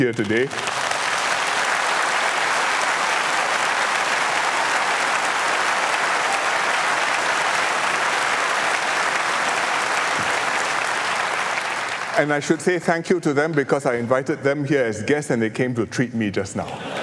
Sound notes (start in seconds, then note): 0.0 applause